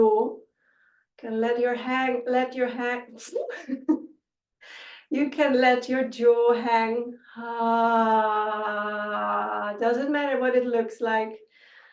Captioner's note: laughter